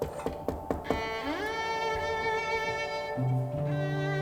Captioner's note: Llama a la puerta; knocking on door